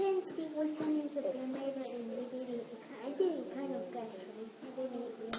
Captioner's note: children talking